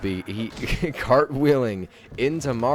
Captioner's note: laughs